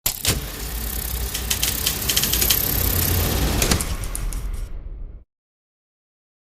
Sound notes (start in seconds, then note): 1.3 reel clicks